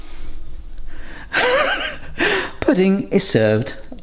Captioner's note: laughing